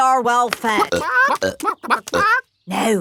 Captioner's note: clucking